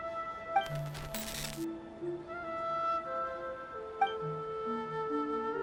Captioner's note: buzz